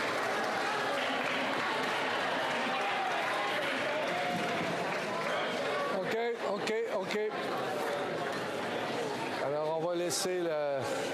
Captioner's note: applause